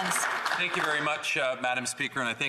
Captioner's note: applause